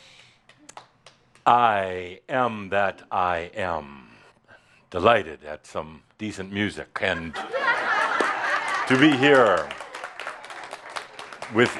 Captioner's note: laughter and applause